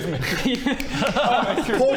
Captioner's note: snap snap snap